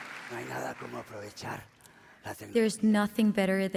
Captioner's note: speaking spanish